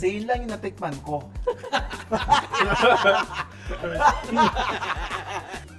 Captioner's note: laughs